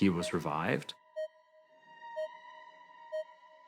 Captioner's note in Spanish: pitido rápido